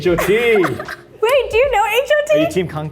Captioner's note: Arden laughs